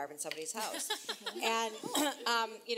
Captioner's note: laughs